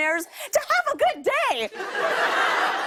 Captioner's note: laughter